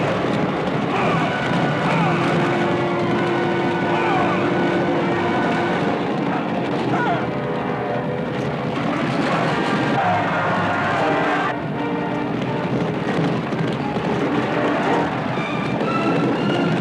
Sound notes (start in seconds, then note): 2.3 neighing; 6.4 grunting